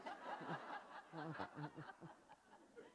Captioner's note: laughter